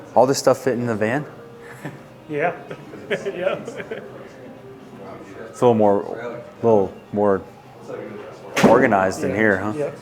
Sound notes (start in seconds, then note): 2.4 laughing; 2.6 chuckling